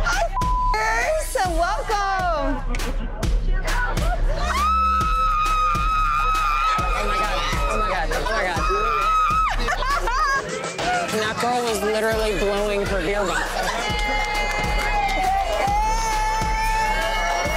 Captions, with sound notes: - Oh, (beep) and welcome. (woman screeching) - Oh my God, oh my God, oh my God. That girl was literally blowing her beer bottle. (girls cheering)